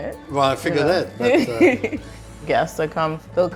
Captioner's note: laughs